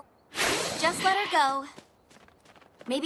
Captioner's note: zoom! screech!